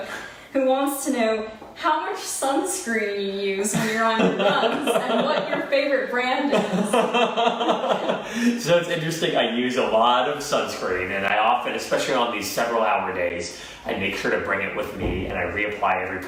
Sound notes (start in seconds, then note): 3.7 laughing; 3.7 laughs